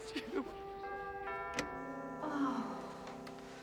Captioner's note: doorbell ringing